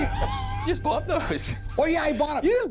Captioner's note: wheezes